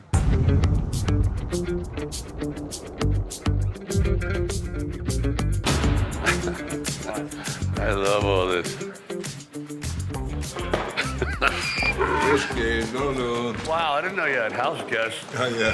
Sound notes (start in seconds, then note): 0.1 upbeat music; 6.1 Sylvester laughing; 10.9 Sylvester laughing; 11.3 donkey braying